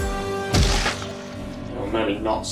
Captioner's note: blood spewing